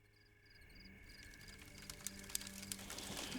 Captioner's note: crickets chirping; fire crackles